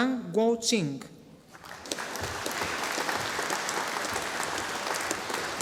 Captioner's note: audience applauding